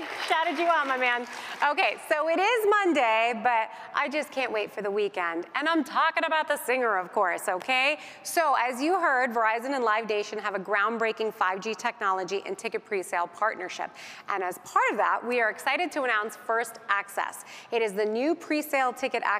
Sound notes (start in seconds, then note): 2.1 applause